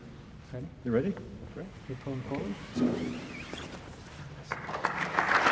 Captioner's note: cloth being pulled off of bust; applause